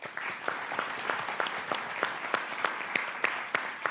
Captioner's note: audience applauding